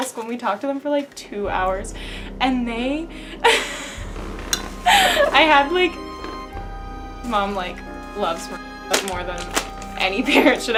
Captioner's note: laughing